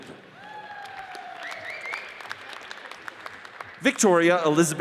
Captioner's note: audience cheers and applauds